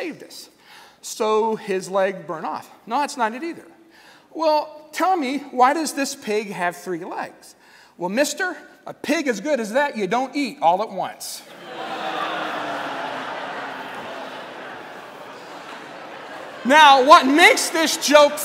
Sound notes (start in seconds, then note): 11.6 laughter/Groaning